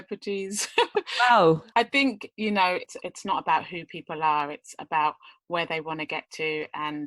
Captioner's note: laughs